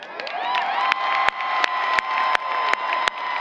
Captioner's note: applause